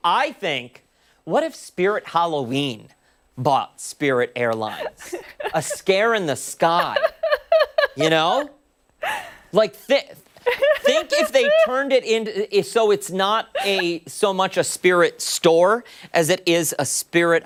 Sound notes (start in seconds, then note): 10.4 laughter; 13.5 laughter